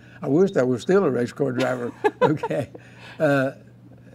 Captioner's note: laughing